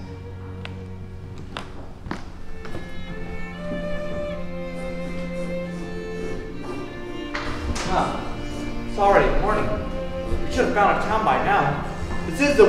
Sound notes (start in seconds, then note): 5.2 violin noises interrupted by Greg blowing raspberries